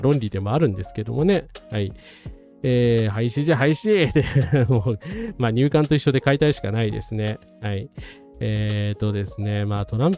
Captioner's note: laughs